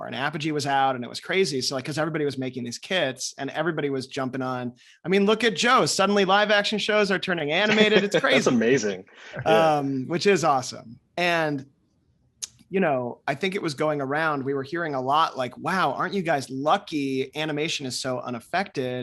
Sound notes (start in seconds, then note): 7.6 laughs